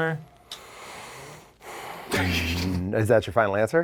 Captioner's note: exhales